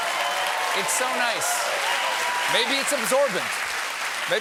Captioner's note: cheering